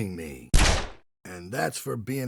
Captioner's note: gunshot